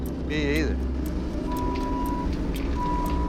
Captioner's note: beeping